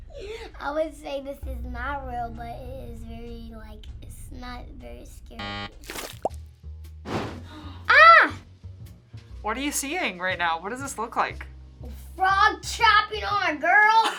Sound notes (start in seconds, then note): 5.4 buzzer; 7.5 gasps